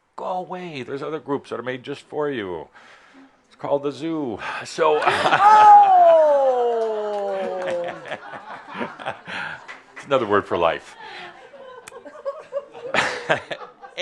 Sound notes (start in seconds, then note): 7.2 laughter